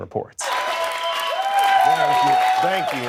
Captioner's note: cheering